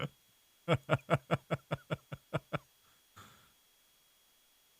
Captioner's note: chuckles